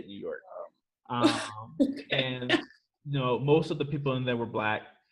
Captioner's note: chuckles